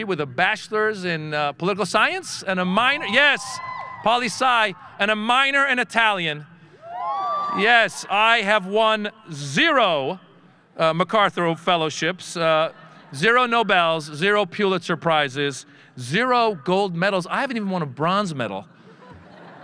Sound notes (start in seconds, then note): 2.8 audience cheering; 6.8 audience cheering